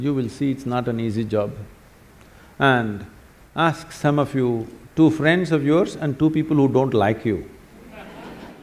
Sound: laughter

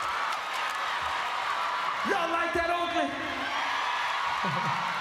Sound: applause

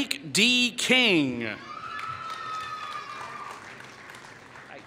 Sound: applause

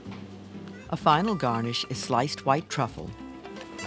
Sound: voiceover

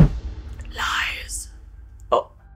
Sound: background music; whispers: "Lies!"

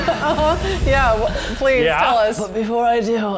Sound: laughs

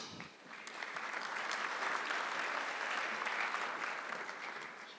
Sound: audience clapping

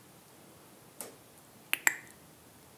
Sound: tongue clicking

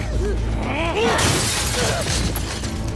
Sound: glass breaking

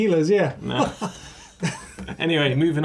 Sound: they laugh

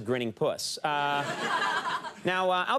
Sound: audience laughs

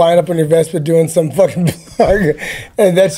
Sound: laughs

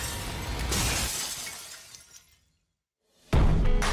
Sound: glass shatters; chandelier crashes; upbeat blues-rock music

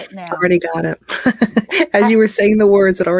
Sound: chuckles

